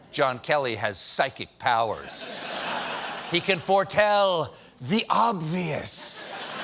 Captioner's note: laughter